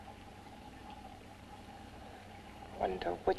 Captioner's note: liquids bubbling